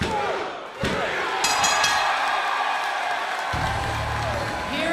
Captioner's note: crowd cheering; bell ringing